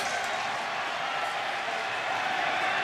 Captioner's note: cheering